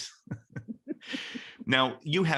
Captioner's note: both laugh